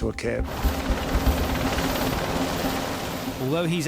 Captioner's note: helicopter droning